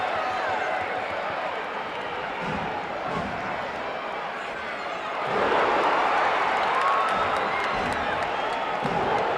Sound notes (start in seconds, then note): 5.7 audience cheering